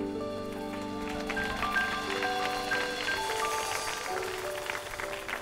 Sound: audience cheers and applauds

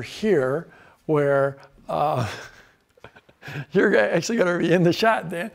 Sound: laughs

